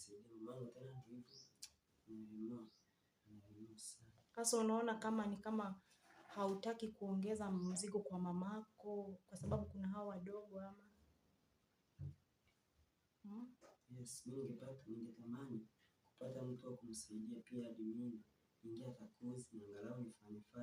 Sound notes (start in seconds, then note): 11.2 silence, bites his lower lip